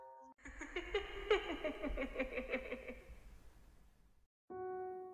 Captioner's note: laughs